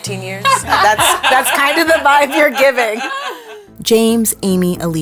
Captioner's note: laughter